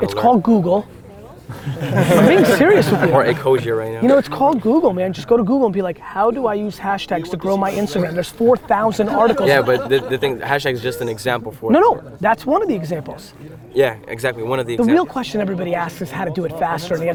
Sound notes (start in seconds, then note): 1.4 group laughter